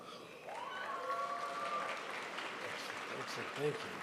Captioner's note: crowd applauds